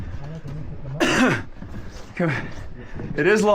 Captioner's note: coughs